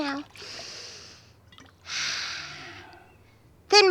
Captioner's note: inhales, exhales